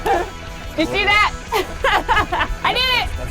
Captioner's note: laughs